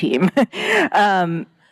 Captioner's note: chuckles